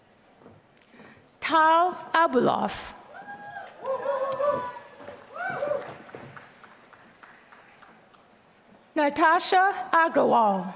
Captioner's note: applause